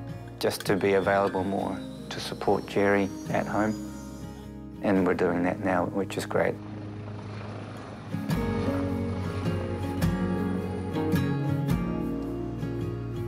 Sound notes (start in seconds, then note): 8.1 helicopter blades whirr; 10.4 gentle guitar music continues